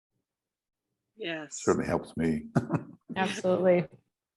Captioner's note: laughs